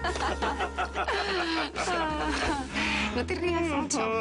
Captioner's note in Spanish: Risas